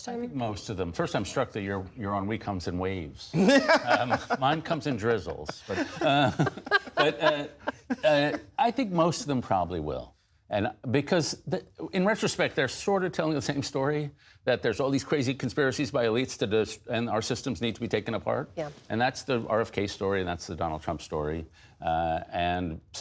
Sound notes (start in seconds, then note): 3.3 laughter